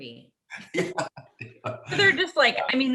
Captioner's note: laughs